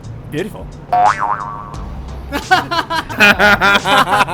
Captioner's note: laughing